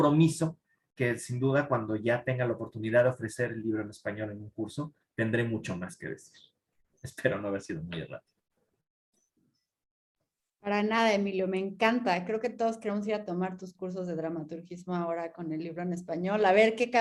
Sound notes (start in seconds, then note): 11.0 speaking in Spanish